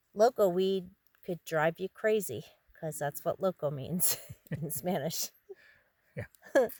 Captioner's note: chuckles